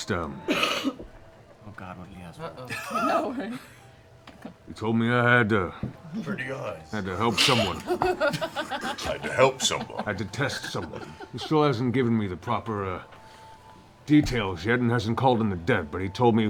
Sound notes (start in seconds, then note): 5.7 mutters; 7.3 laughter